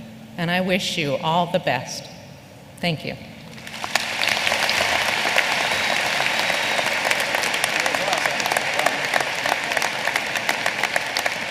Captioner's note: applause